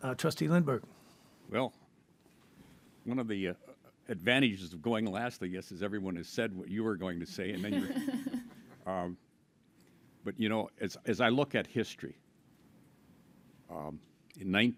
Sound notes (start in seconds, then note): 7.3 people laughing